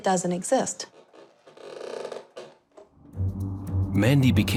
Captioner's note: bed creaking